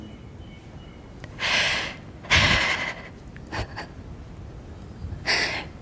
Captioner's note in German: Fragende lacht